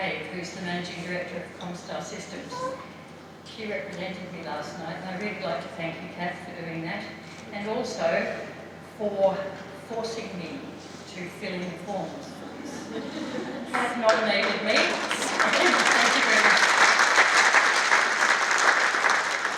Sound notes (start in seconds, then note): 12.5 laughter; 17.0 applause